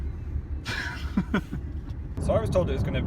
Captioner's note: laughs